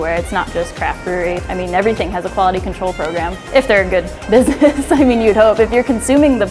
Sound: laughs

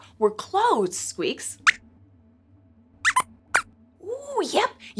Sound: squeaks squeaks

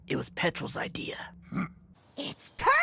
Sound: Petrol grunts

